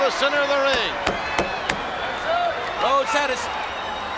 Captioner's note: crowd shout